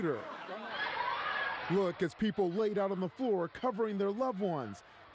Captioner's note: screaming